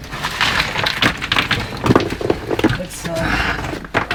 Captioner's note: rocks rattling